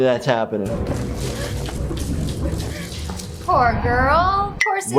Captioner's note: woman gasping for breath